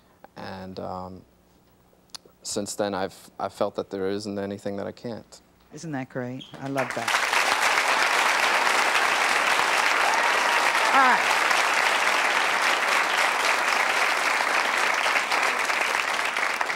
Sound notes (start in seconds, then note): 8.0 audience applauding